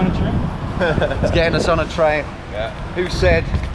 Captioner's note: laughs